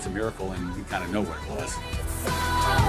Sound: none

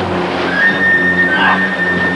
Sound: grunting

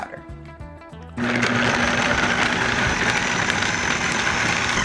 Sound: grinds

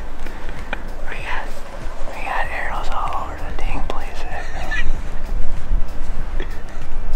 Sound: laughs

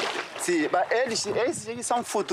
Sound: Portuguese spoken audio

